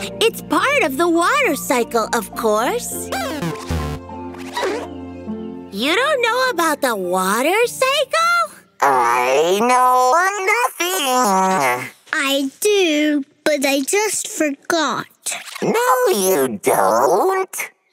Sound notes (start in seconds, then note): 3.4 beeps